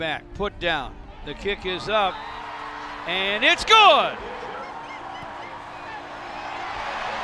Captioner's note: spectators cheering